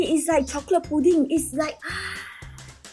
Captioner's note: gasps